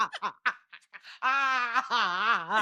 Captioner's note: laughing